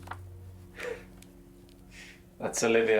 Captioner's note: gentle laugh